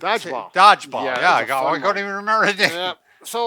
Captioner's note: laughs